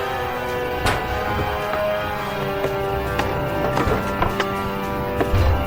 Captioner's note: sinister music; zombies banging